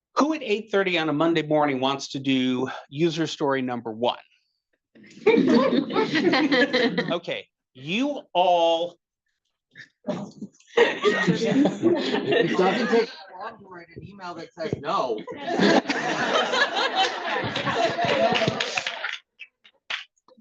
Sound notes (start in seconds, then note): 7.2 attendees laughing; 17.8 attendees laughing; 18.9 attendees chattering